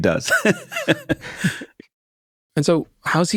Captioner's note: laughs